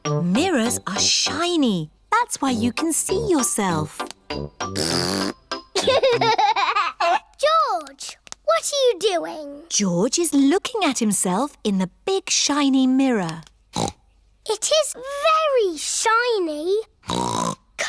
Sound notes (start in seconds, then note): 4.6 blows raspberry; 5.7 giggles; 13.7 snorts